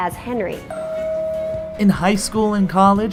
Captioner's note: relaxing bell tone rings